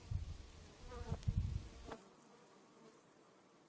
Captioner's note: bees hum